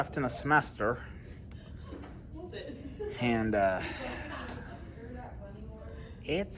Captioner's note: Students at Purdue Fort Wayne's Neff Hall chattering